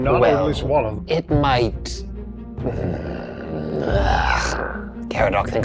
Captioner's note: groans